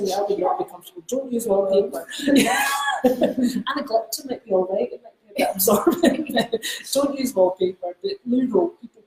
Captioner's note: laughs